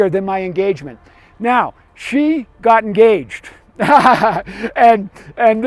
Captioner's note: laughs